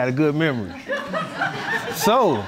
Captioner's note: audience laughing